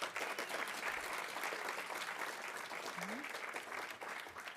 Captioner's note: audience applauding